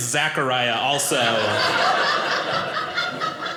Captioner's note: audience laughing